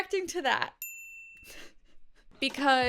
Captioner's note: bell dinging